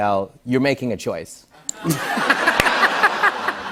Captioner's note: laughter